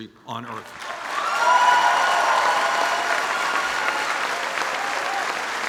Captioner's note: applause and cheers